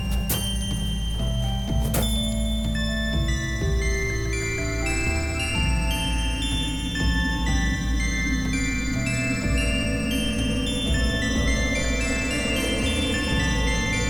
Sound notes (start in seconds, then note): 0.3 bell rings; 3.2 bells ringing in sequence